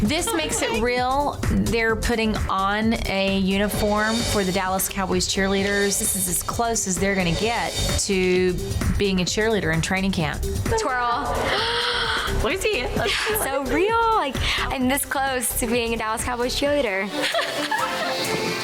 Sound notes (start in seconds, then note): 11.4 gasping; 17.2 laughing; 18.3 energetic music